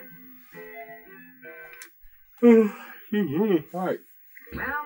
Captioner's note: yawns